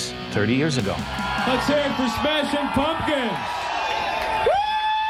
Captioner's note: crowd cheering